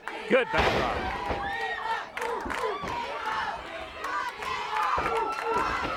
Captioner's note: crowd chanting; crowd chanting and clapping